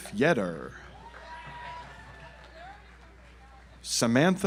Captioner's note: audience applauds